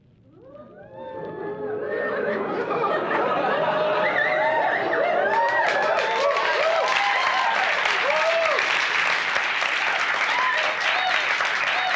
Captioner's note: added whistles and applause; audience hoots and woos; some laughs